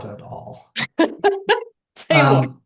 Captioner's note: laughs